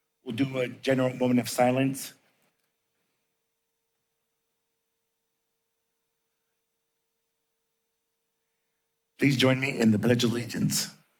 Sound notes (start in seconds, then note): 2.2 silence